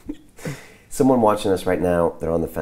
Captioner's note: laughing